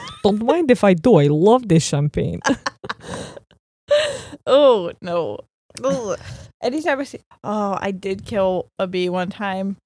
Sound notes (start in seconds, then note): 2.4 both laughing